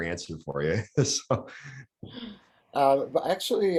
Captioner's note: laughs